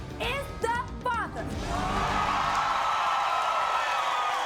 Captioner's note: audience cheers